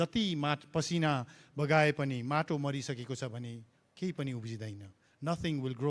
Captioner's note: Speaks in Nepali - not transcribed